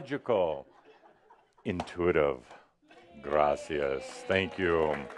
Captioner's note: audience says “Yay!” and some applause